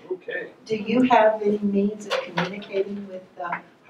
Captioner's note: voiceover